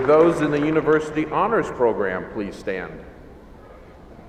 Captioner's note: applause